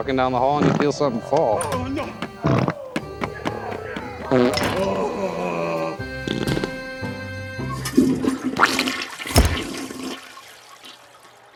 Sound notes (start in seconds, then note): 4.2 flatulating and groaning; 7.8 toilet flushing